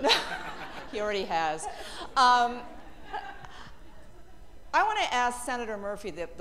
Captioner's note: laughter